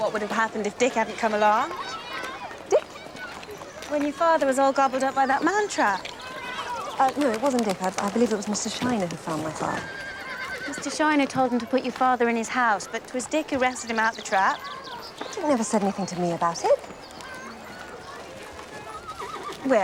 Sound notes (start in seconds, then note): none